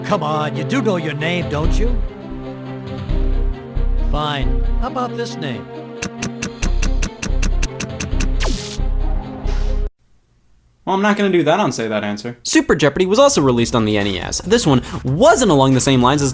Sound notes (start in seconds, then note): 1.6 dramatic music; 9.2 typing